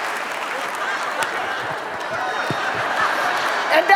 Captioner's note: audience laughs